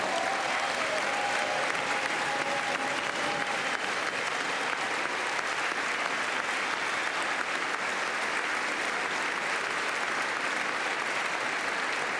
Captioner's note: applause